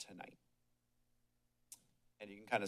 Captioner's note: pause